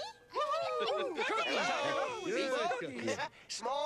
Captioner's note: cheering and whistling